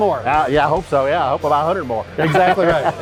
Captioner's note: laughs